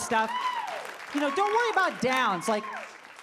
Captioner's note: audience clapping